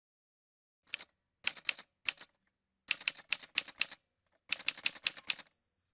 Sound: typewriter sounds

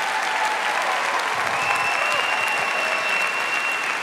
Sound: applause

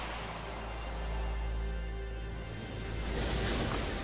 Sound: water gushing

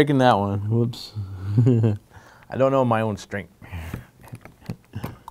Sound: laughing

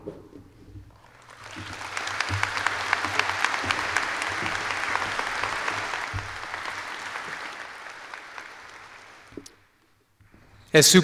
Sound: applause

